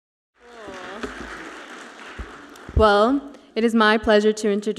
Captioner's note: audience applauds